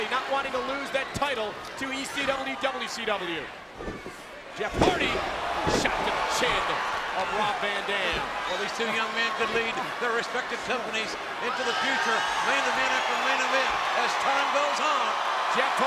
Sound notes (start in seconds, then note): 3.7 mat thumping; 13.6 crowd cheering